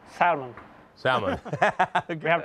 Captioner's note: laughing